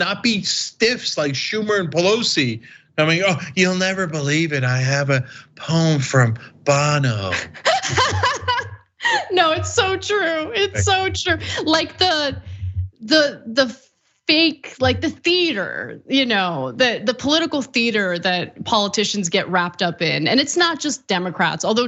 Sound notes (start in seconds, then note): 6.7 laugh